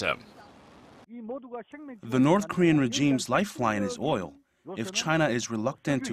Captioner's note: Korean